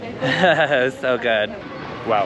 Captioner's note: giggles yet again